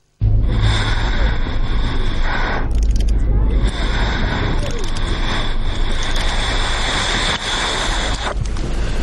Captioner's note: breathing, eerie ambience